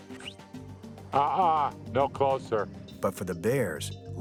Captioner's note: whistles